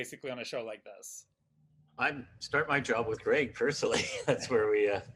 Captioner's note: laughs